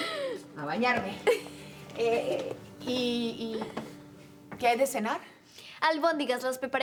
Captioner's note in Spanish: Risas